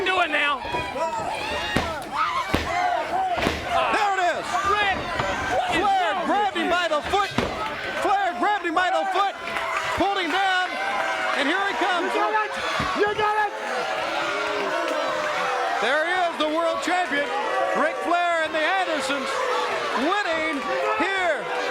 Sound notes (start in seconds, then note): 2.2 crowd chatter; 14.9 crowd chatter